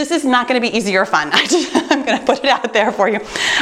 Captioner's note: chuckles